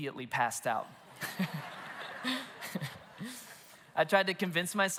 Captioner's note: congregation and laugh